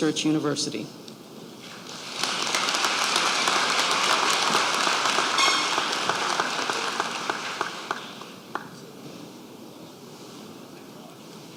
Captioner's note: applause